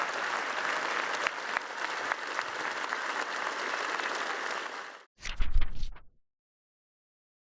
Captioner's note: cheers & applause